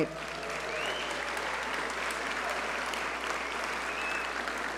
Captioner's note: audience cheer and applaud